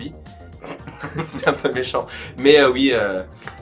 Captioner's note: snickers